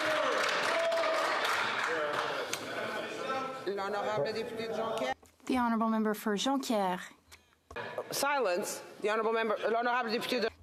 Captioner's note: some Applause